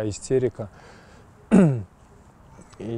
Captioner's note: coughs